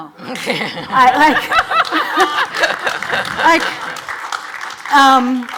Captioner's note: audience laughs and applauds